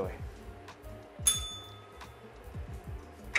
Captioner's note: bell rings